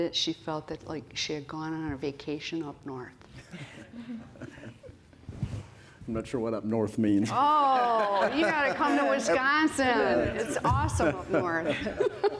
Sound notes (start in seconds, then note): 3.4 laughter; 7.6 laughter